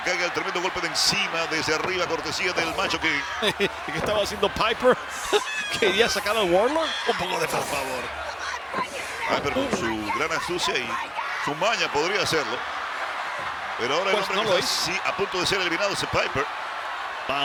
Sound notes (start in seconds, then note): 2.8 laugh